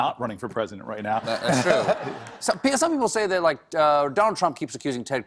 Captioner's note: laughter